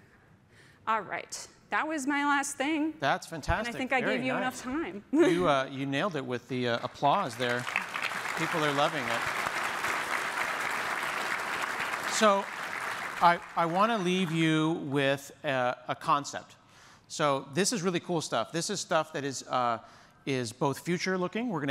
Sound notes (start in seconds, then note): 9.2 applause